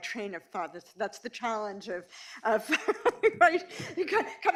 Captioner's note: laughs